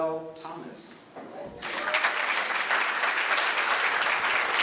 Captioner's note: applause